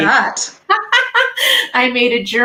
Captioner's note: laughing